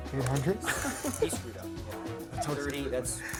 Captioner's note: laughter